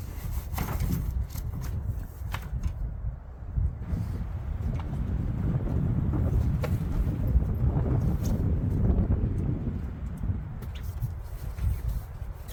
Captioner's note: wind howling